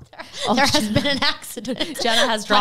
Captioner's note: laughs